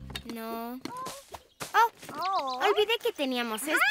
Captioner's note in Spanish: Sonido de ave